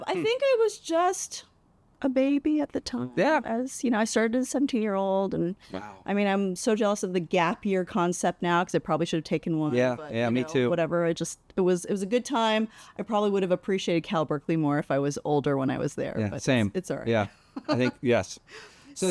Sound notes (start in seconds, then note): 17.6 laughs